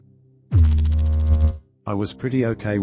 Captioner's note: electrical noise